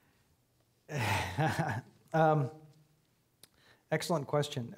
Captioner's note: chuckling